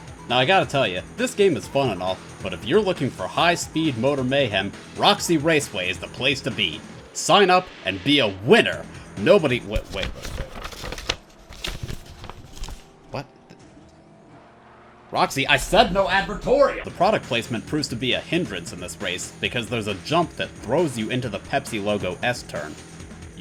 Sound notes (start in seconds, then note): 9.6 rustling papers